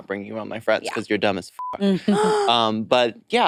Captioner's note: beep